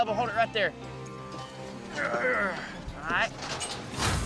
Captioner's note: grunting